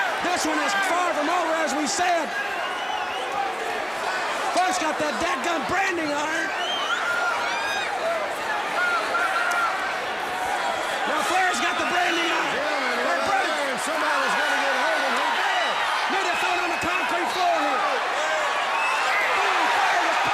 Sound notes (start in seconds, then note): 9.0 crowd chatter; 12.9 crowd chatter